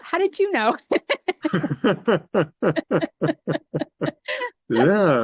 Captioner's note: both laughing